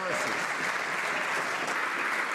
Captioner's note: some Applause